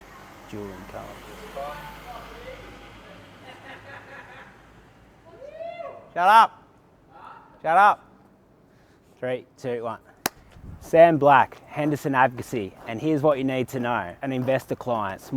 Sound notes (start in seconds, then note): 3.5 laughs; 10.2 hands clap